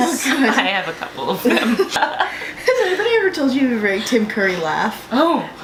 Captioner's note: laughter